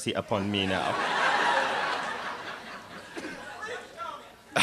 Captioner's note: laughter